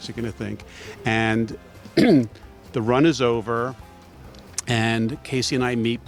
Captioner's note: clears throat